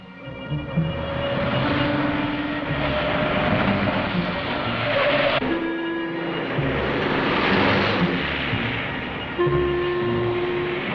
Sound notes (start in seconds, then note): 1.2 highway noises; 4.2 dramatic, orchestral music